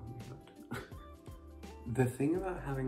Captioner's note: scoffs